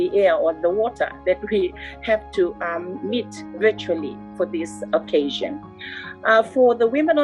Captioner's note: chuckle